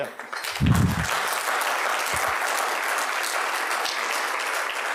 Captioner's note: audience applauds